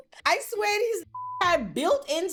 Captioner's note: beep